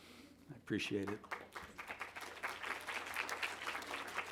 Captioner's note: applause